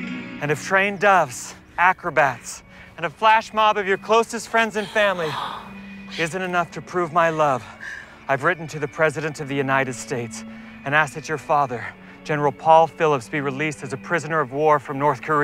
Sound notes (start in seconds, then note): 4.7 gasps